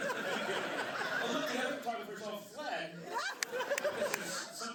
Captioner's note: laughter; laughter